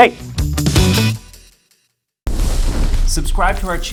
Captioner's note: lively music; fire roaring